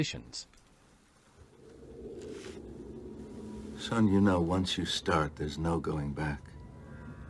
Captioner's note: eerie ambience; eerie ambience continues